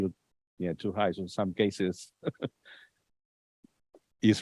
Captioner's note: laughs